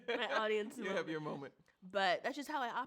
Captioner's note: laughs